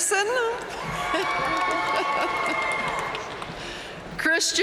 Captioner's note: audience cheering and applauding